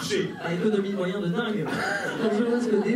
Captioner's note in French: rires